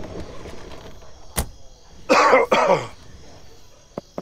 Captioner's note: Car door closes; Cough